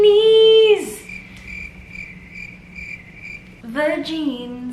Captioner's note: crickets